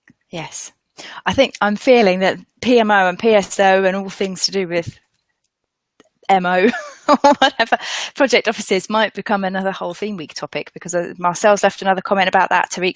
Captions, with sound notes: - Yes. I think, I'm feeling that PMO and PSO and all things to do with MO (laughs), or whatever, project offices might become another whole theme week topic because Marcel's left another comment about that.